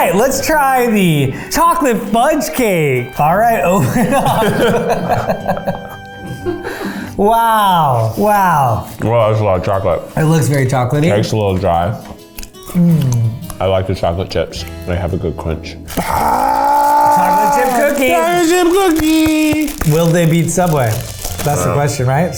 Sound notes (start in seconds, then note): 3.4 both laugh